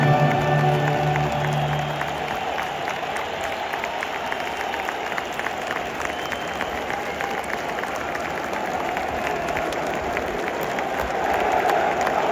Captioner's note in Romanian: Aplauze